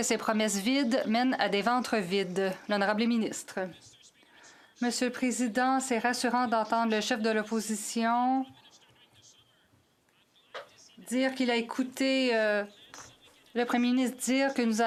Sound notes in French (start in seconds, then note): 6.3 voix de l'interprète